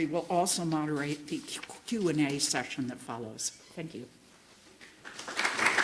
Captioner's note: applause